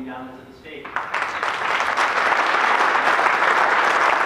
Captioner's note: applause